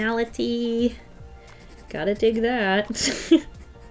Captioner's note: laughs